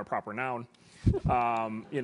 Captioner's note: laugh